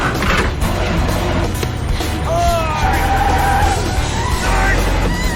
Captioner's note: tires screeching